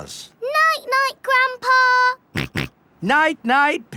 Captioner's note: snorts